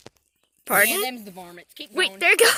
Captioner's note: a bird makes a noise in the background